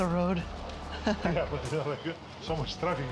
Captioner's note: laughing